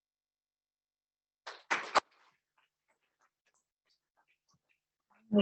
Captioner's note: applause